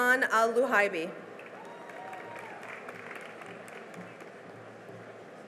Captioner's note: cheering and applause